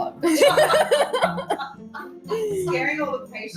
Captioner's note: girls laughing